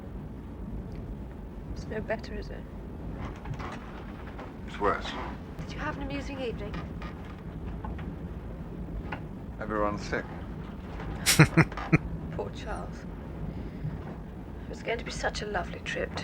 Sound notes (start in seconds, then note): 11.2 chuckling